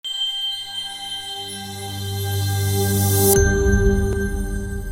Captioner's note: soft beaming; bells chiming; bell rings; soft twinkling